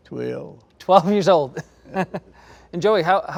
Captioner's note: everyone laughs